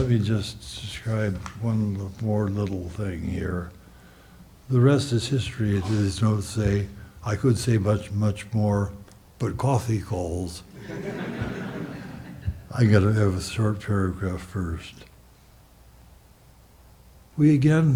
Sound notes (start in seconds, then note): 10.7 audience laughs